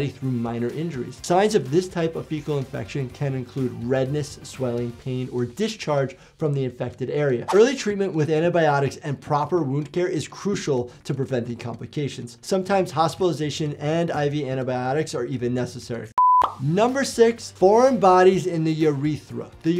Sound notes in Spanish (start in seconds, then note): 16.1 pantalla pitando